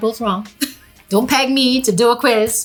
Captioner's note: laughing